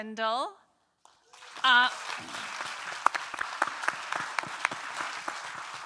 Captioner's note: audience applauding